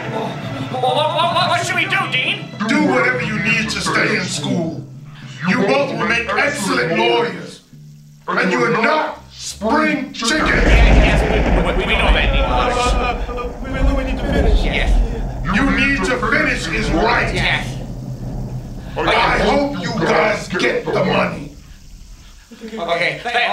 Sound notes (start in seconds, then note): 3.1 voiceover; 11.3 thunder crashing; 17.0 voiceover; 20.4 voiceover